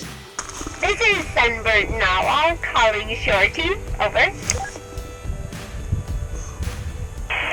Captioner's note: talking on radio